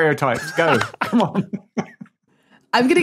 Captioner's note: laughs